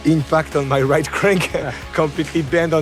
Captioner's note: chuckling